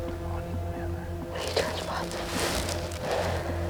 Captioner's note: whispering